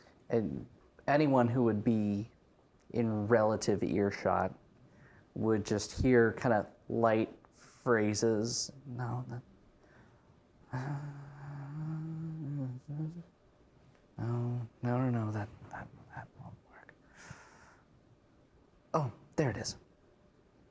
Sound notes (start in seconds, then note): 10.4 mumbling in character